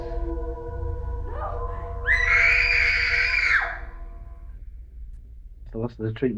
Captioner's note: screaming